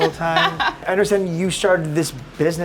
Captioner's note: laughs